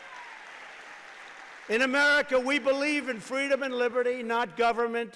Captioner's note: applause